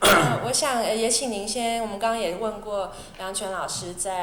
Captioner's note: Mandarin